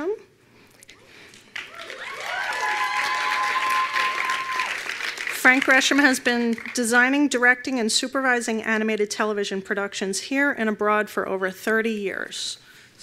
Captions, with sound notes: (attendees applauding) Frank Gresham has been designing, directing and supervising animated television productions here and abroad for over 30 years.